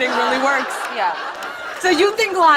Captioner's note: laughter